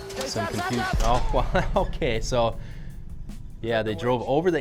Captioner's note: laughs